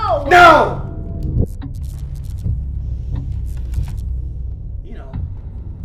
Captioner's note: electricity buzzes